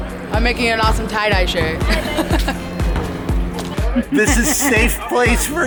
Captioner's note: laughs